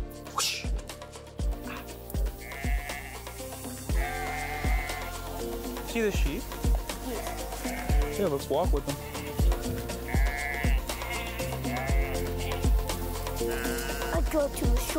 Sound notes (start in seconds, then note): 3.9 sheep bleating; 11.1 sheep bleating; 11.1 upbeat music